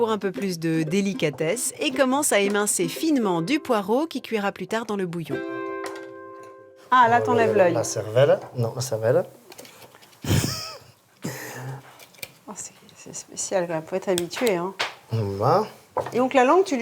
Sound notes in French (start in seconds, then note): 10.2 rires